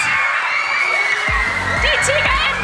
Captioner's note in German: Jubel